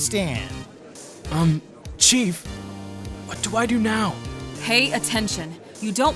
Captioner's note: whispering